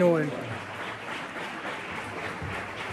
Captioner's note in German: Tosender Applaus